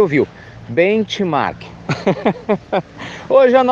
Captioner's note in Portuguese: Risos